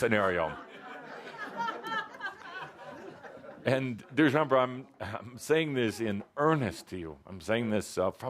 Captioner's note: laughter